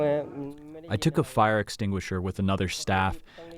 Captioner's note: through translator